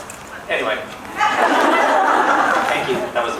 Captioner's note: laughs